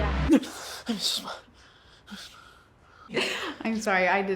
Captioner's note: gasps; laughs